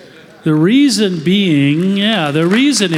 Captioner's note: applause